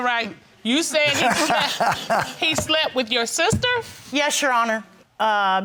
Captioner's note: man laughing